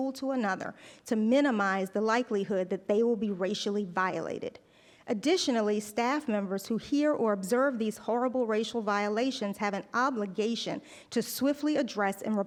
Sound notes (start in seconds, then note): none